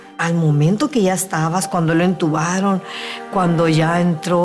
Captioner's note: woman speaking Spanish